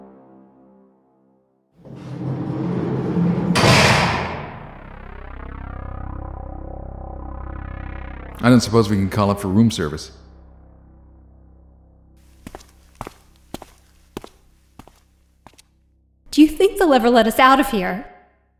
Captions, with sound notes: [cell door clanks shut] I don't suppose we can call up for room service? [footsteps] Do you think they'll ever let us out of here?